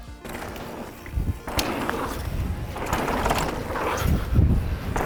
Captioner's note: bike tires on dirt